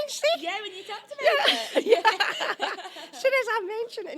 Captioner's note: laughter